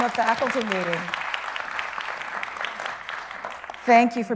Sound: people clapping

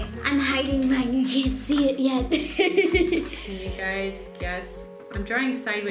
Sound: giggles

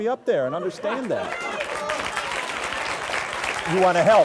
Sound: audience laughs and applauds

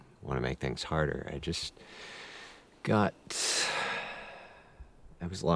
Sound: sighs

